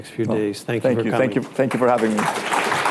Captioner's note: applause